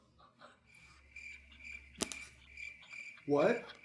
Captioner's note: laughs; crickets